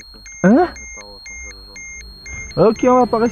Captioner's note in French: alarme